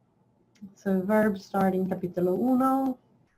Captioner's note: speaks in foreign language